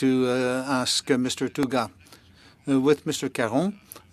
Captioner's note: speaking french